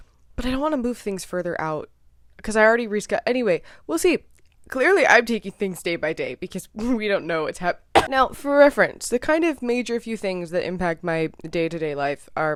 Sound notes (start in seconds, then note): 7.9 coughs